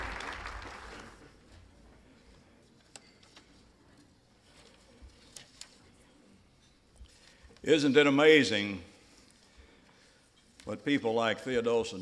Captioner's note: applause continues